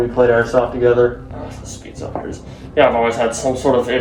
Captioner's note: whispering